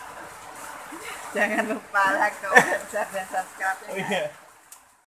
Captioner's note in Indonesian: tertawa